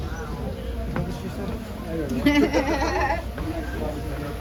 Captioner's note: laughs